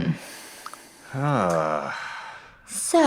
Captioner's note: sigh